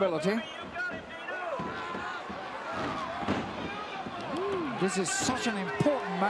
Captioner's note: crowd murmuring